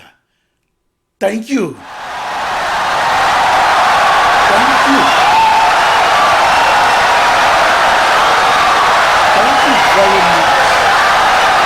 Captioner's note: wild applause and cheering for 17 seconds